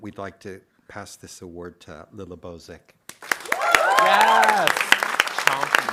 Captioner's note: audience applauding